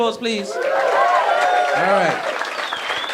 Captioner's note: audience clapping